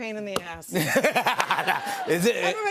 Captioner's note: laughter